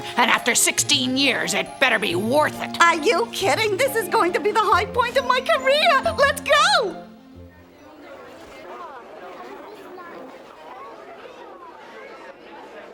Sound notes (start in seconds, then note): 7.2 idle chatter